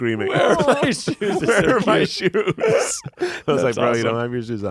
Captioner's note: laughs